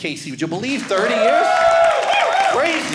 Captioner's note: audience cheering